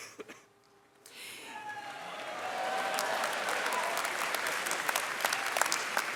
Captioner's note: audience cheering and clapping